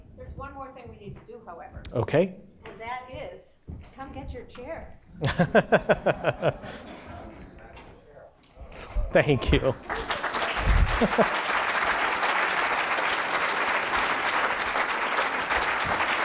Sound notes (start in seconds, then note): 5.2 laughs; 9.5 applause